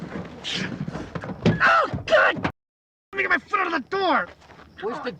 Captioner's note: yelling in pain